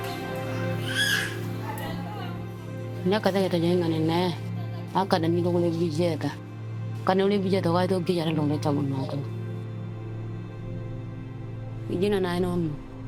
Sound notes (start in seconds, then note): 3.2 speaking in foreign language